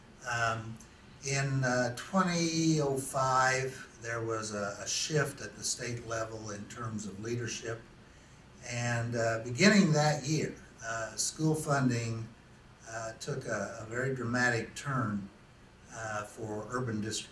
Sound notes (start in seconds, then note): none